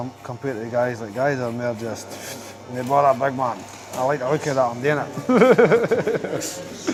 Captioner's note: laughs